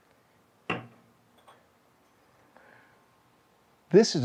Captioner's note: beer can clattering